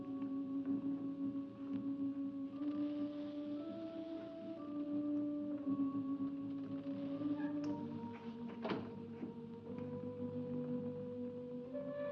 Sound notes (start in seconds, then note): 8.4 door closes; 9.7 eerie music